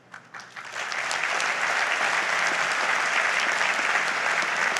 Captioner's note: audience applauds